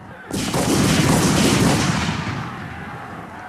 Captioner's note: guns bang